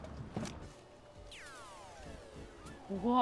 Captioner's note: video game beeping